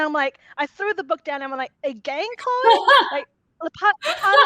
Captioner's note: laughing